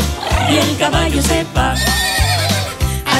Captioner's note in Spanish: Relincho